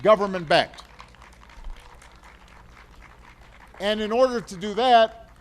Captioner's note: applause